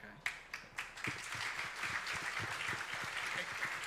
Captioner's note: audience applauds